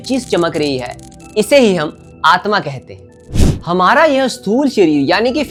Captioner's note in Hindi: नाक से की जाने वाली आवाज़